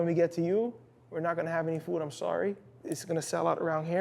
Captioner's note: none